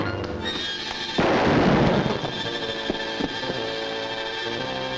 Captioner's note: dramatic music; gun fires; suspenseful music